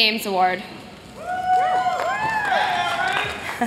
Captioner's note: cheers